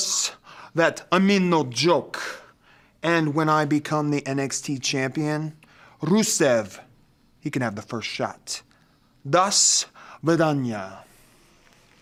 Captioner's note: speaking in foreign language